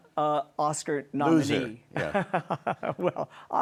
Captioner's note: laughs